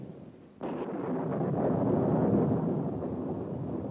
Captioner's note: thunder continues crashing, rumbling